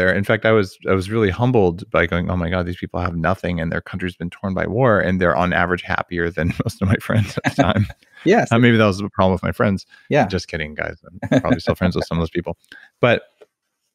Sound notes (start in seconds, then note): 6.4 laughs; 11.2 laughs